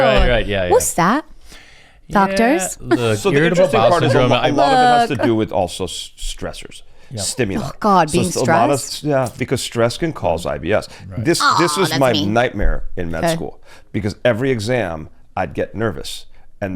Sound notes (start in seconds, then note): 2.8 laughs; 2.8 chuckles